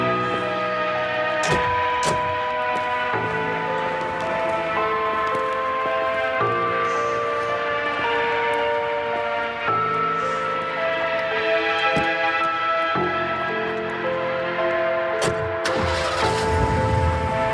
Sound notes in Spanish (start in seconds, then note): 10.4 Ruido del motor acelerando